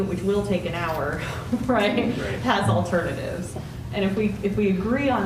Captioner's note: laughter